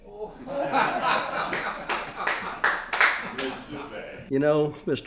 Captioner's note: group laughs